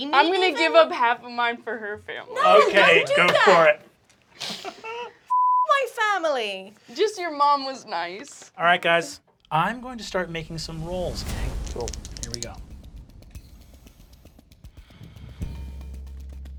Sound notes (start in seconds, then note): 4.2 laughing; 5.3 beep; 13.1 tense music